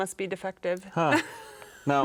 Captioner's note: laughing